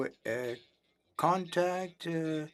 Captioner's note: speaking French